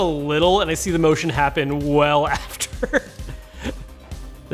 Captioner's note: chuckles